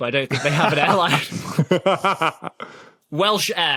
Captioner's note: both laugh